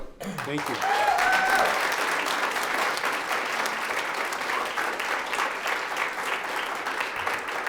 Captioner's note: audience applauds; audience cheers